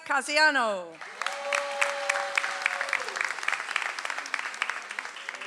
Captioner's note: audience applauds